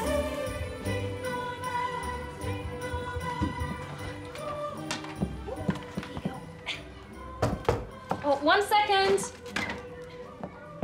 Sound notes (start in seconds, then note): 3.9 music fades out; 6.9 knock at door